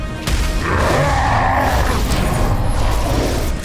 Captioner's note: roars